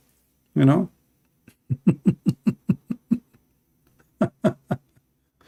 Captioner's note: Ketawa